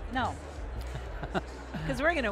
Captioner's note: Paikin laughing